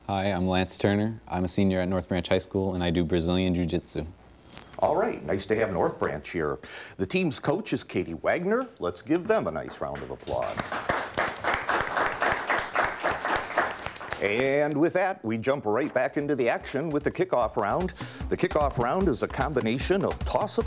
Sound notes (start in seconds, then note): 10.2 clapping